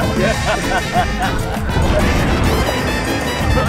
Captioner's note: laughter